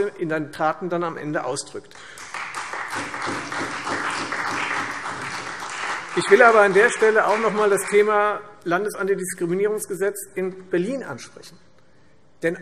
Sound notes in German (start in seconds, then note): 1.9 Beifall Freie Demokraten und CDU